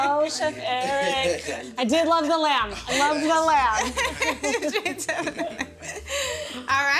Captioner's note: laughter